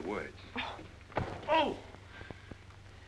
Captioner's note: whack